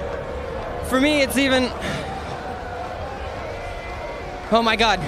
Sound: sighs

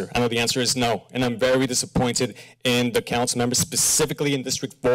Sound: none

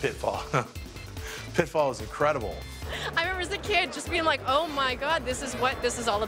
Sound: chuckles

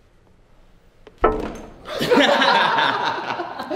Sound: laughter

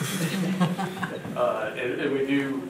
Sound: board members laugh

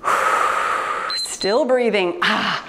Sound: timer beeps

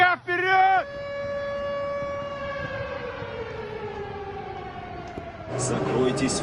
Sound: sirens sound

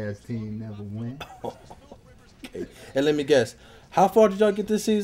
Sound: laughs

